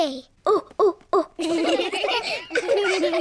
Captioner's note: children laughing; all laugh